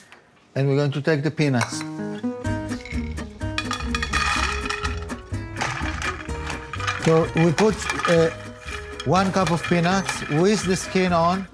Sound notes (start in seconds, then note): 2.6 peanuts rattling